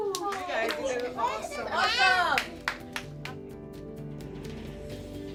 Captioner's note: children clapping and cheering; inspiring music